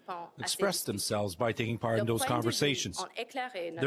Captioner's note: speaking french